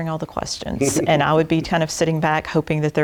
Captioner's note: laugh